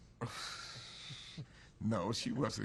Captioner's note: laughter